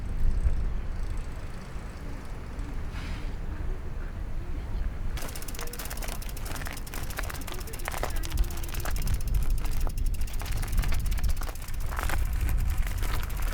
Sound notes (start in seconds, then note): 5.2 crunching on gravel; 8.5 distant chatter